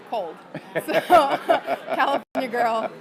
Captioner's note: laughs